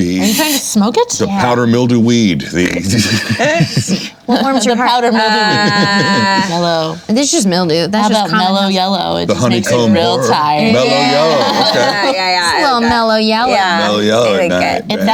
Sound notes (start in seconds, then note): 2.7 laughing